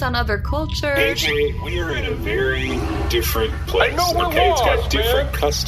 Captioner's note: flush the toilet